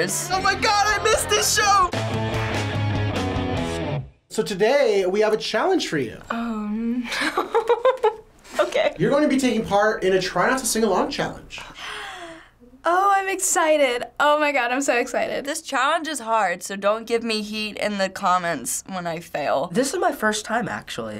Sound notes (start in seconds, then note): 1.9 punk rock intro; 11.7 gasping